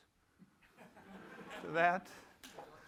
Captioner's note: laughter